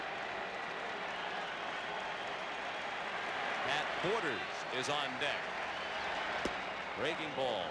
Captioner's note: applause